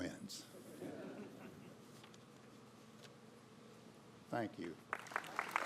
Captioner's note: laughter; applause